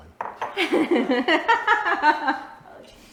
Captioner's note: laughing